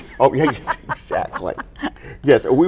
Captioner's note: laughing; chuckles